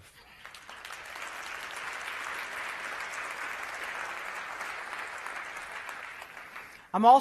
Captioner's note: applause